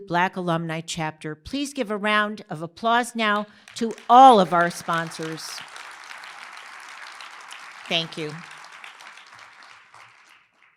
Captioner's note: applause